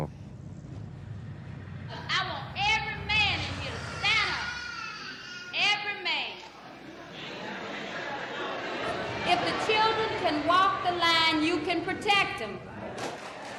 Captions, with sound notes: >> I want every man in here to stand up. Every man. (people murmuring) If the children can walk the line, you can protect them.